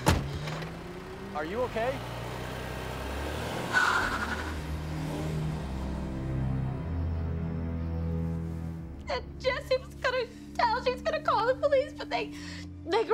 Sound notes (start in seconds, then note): 9.0 sobbing